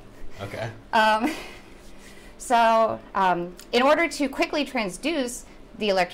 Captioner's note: chuckles